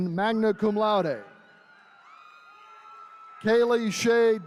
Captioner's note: attendees cheering